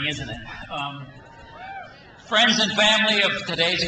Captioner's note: crowd cheers